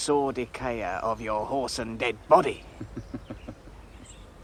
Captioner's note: chuckles